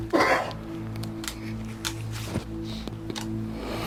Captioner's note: coughing